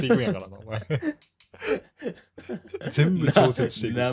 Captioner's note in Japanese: 笑い